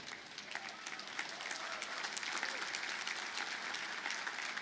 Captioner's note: audience applauding